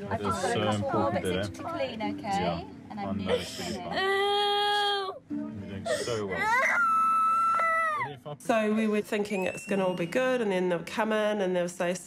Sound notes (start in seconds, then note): 6.4 screams